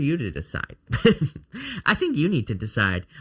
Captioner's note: man chuckles